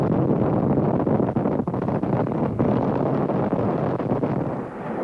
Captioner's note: artillery exploding